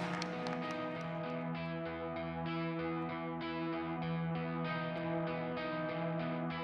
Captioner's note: cheering and Applause